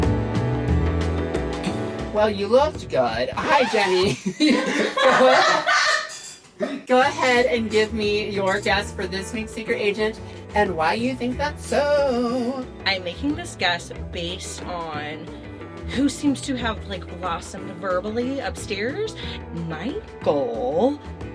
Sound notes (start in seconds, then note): 3.7 laughter